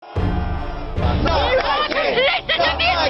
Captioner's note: chanting